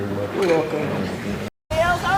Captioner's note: deep voice